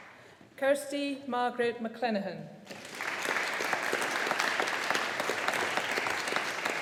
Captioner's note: audience applauding